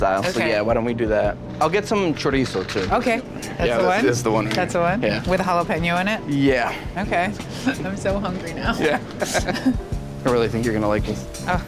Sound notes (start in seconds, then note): 8.7 chuckles